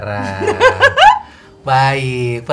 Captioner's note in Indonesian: Tertawa